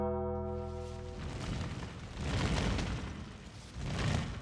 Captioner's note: bell tolls; fire crackling